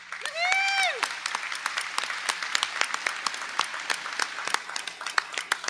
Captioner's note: audience applauding